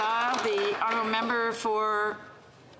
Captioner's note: applause